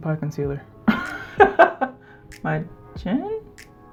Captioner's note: laughs in embarrassment